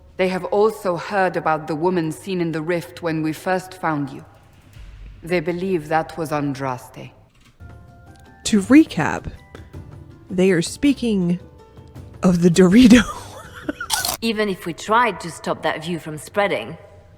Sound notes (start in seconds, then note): 13.5 laughs; 13.9 Crunch